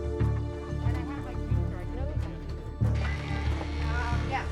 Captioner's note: chatter